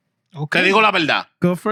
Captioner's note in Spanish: Hablando en idioma extranjero